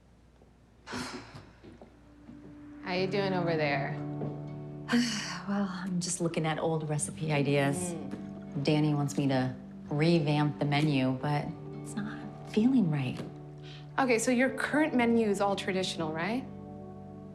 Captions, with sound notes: (sighs) How you doing over there? - Well, I'm just looking at old recipe ideas. - Mmm. - Dani wants me to revamp the menu, but it's not feeling right. - Okay, so your current menu is all traditional, right?